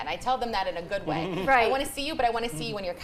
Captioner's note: laughs